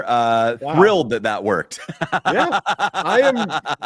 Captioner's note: laughter